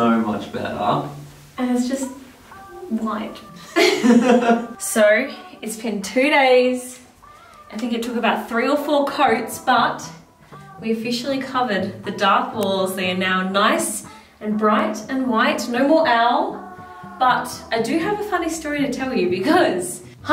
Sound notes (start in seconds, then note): 3.4 laughs